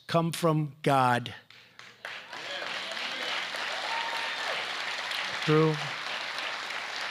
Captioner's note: applause